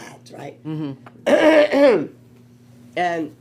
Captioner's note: coughs